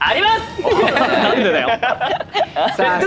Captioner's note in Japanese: 笑い